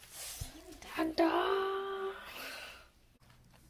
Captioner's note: louder aggression; sigh